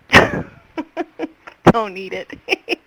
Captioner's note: laughing